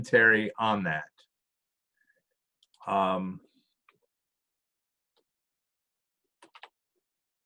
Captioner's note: silence